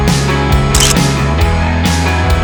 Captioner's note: photo click